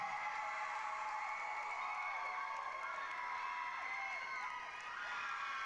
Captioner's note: applause, cheering